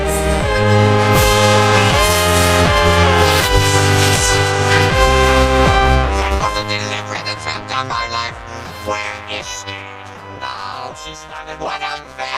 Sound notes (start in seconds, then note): 1.1 crowd cheering